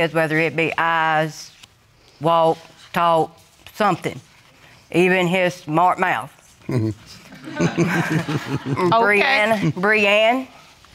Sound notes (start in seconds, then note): 4.8 chuckles; 7.2 audience chuckling